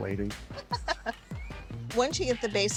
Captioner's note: laughs